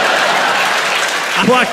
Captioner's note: applause; crowd laughs